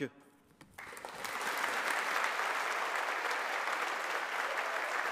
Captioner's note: audience applauding